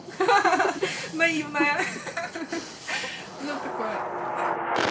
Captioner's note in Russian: смех